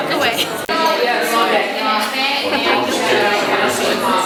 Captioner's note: crowd chatting